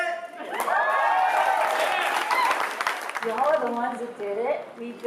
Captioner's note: applause; cheering